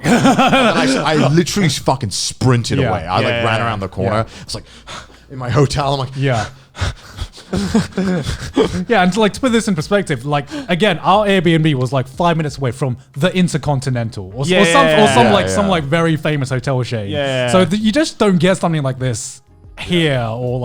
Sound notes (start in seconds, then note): 0.0 laughing; 4.0 panting